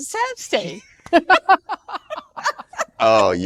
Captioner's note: laughing